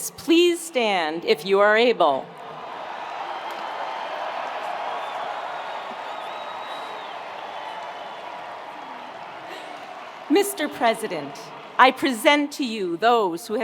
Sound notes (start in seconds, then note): 2.3 attendees cheering; 2.4 attendees applauding